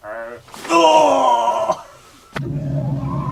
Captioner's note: scientist groaning; intense music